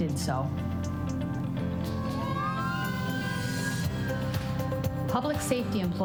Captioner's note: fire siren